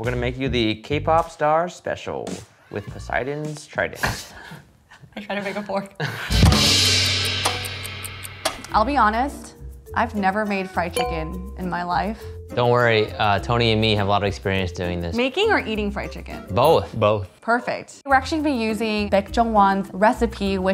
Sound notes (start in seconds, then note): 4.9 laughs; 6.4 drum banging